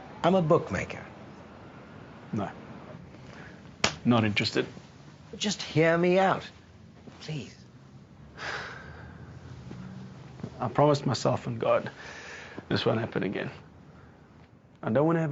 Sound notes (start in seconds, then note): 3.8 slaps; 8.3 sighs